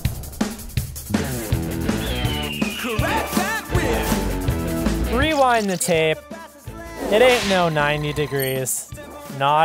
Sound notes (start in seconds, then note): 2.1 falcon screech